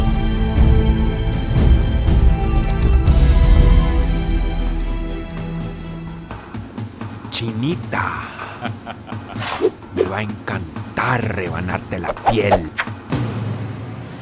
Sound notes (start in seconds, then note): 7.6 man speaking in foreign language